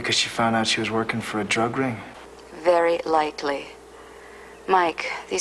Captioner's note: none